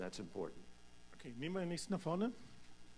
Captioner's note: in German